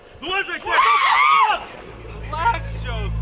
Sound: hikers scream

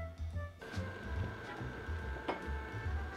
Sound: simmering

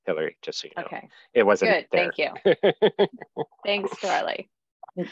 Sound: laughs

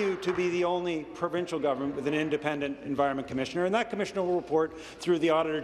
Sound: applause

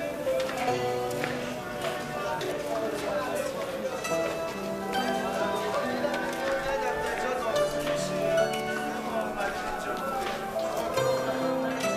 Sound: hubbub

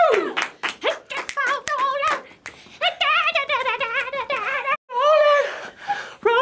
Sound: snaps fingers

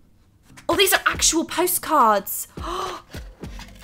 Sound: gasps

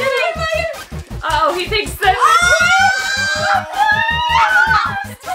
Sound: kids squealing

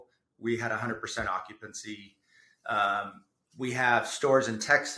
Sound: none

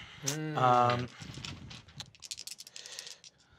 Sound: groaning; dice rattle

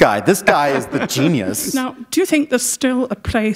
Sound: laughter

